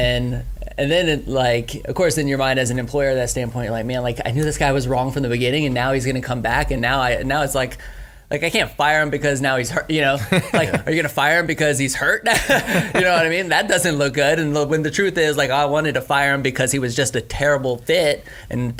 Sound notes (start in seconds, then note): 12.3 laughing